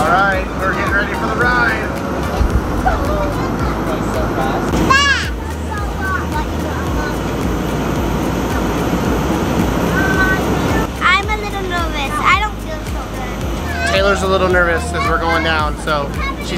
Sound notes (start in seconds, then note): 4.8 babbling